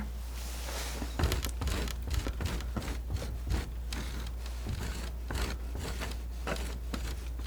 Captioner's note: scratching